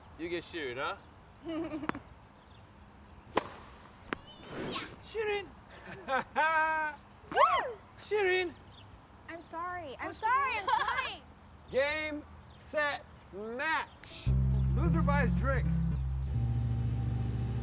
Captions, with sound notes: You get Shirin, huh? ( laughing ) Whew! Shirin! I'm sorry! I'm sorry! I'm trying! Game, set, match. Loser buys drinks.